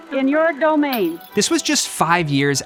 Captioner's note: bottle smashes